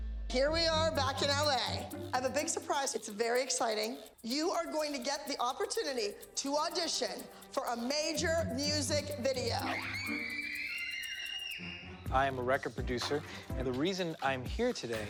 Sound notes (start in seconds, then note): 9.4 screaming in excitement